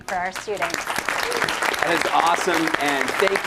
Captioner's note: applause